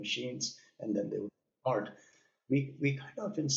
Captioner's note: audio cutting out